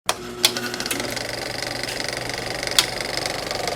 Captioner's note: reel clicking